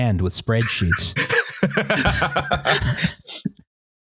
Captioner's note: laughs